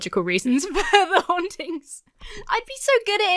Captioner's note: laughs